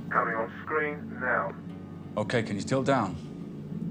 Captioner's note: man over phone